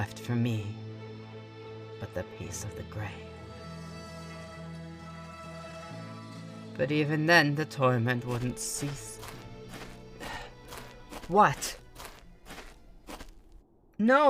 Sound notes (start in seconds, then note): 8.2 footsteps return, music ends